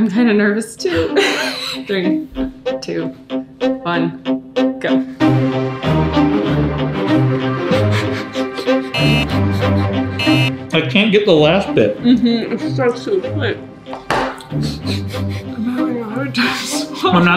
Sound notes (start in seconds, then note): 0.9 laughing; 8.9 buzzer beeps